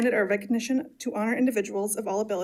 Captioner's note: none